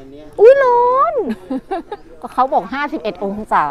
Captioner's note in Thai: เสียงหัวเราะ